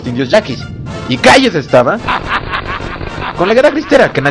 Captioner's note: evil laugh